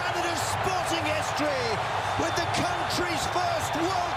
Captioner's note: applause